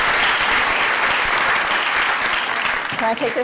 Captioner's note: applause